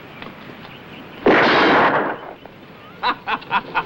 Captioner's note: gun firing; Tom laughing